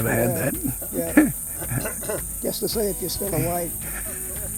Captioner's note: laughs